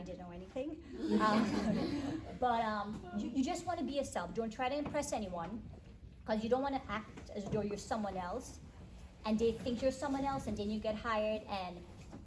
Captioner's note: attendees laugh